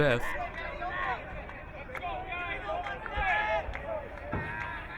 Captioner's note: crowd cheering